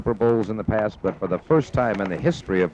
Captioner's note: things shuffling